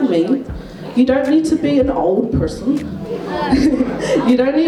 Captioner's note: laughs